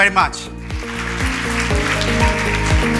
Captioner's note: applause